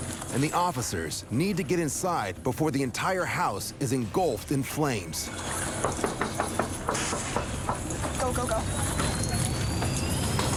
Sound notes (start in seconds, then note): 5.8 knocking